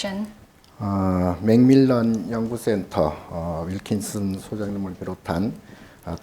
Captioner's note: speaking Korean